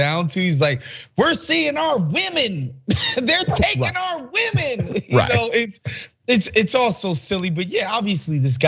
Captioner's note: laugh